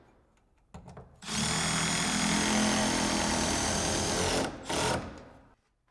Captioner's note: screw drill whirring